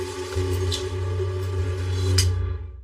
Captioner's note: light clickcks off